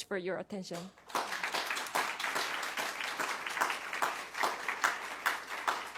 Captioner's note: applause